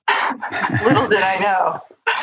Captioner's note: laughter